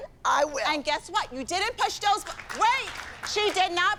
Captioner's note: applause